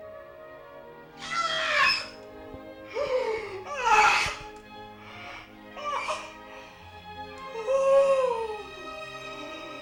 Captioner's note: shrieks of pain